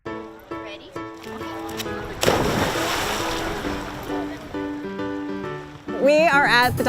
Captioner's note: sound of dog splash